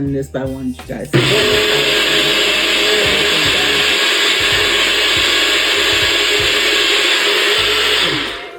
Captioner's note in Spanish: Sonido de la licuadora